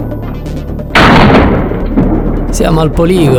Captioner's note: gunshot